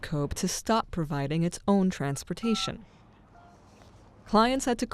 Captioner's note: phone buttons beeping